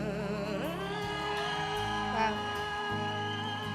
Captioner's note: crowd cheering